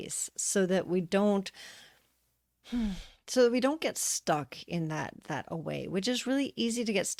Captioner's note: sigh